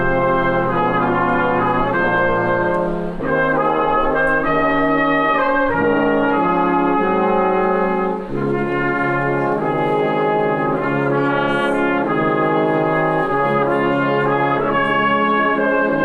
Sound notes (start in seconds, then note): none